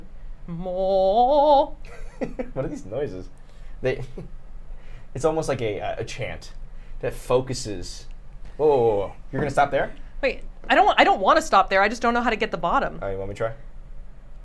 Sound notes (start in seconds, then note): 1.8 laughs; 4.2 laughs